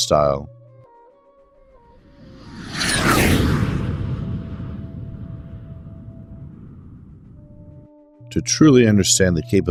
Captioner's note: jet Whoosh